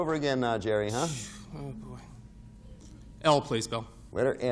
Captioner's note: sighs